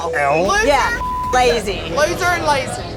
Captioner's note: beep